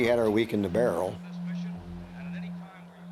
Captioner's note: reporter talking in background